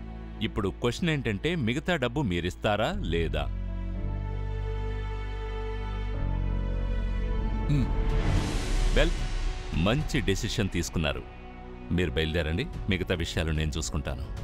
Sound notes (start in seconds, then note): 4.9 mouthing